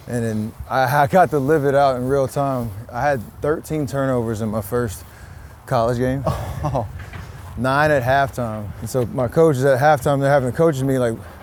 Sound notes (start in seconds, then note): 5.9 chuckles